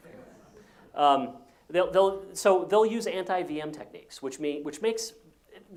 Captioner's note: laugh